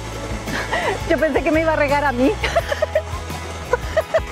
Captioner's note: laughs